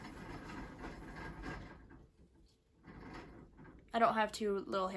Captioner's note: hamster wheel noises